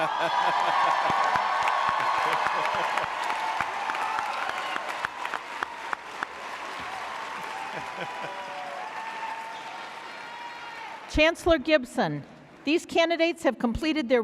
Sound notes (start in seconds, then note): 0.0 audience cheering; 0.0 laughing; 5.2 audience applauding